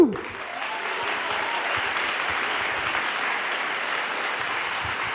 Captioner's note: audience applauding